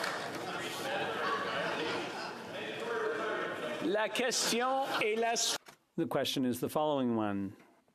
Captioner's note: applause